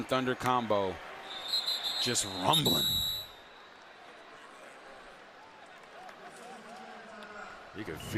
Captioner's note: laughter